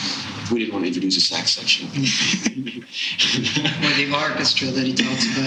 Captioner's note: laughing